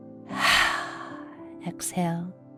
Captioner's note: heavy exhaling